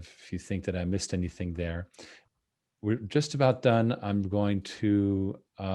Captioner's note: none